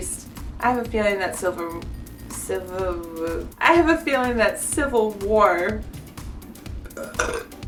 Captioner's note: belch